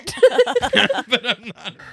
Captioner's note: laughing